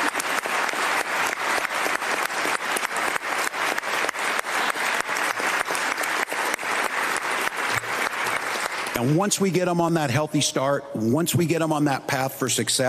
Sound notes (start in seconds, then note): 0.0 applause; 5.2 continued applause